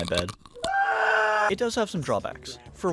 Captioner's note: crunches; screams in pain